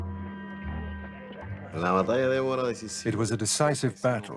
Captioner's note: speaking spanish